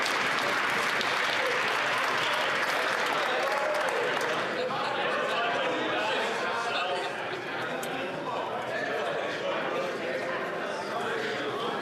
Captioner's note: some Applause